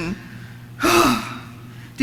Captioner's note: sighs